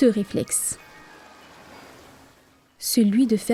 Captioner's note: sound of waves